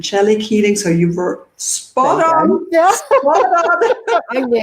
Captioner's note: laughs